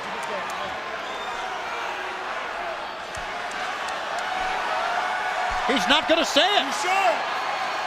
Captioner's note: crowd chatter